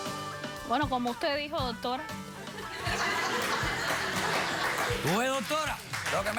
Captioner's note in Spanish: risas